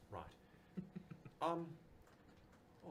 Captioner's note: laughs